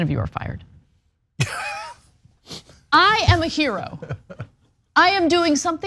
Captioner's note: laugh